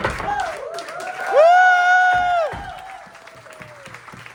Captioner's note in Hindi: हौसला बढ़ाने की आवाज़